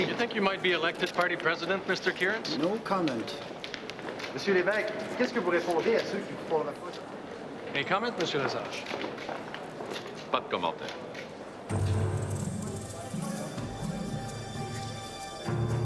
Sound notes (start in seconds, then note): 10.6 speaks French; 11.7 tense exciting music